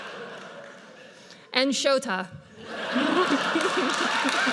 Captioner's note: audience laughs; audience laughs; laughs